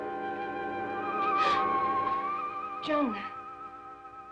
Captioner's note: eerie music; Sheila gasps